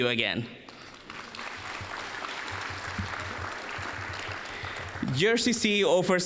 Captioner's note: applause